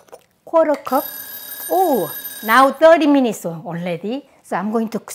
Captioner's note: timer rings